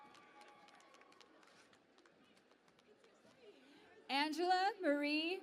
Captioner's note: cheering and Applause